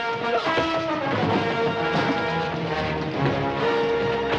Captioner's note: clattering